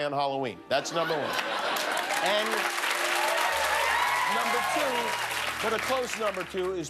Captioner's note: cheers and applause